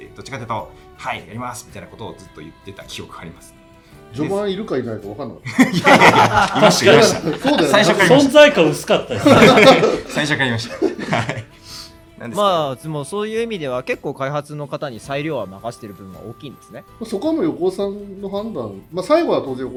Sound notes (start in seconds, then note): 5.5 laughs